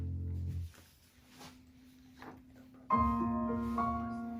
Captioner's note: music stops